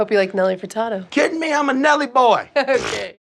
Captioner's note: laughs; scoffs